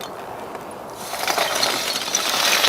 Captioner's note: clinking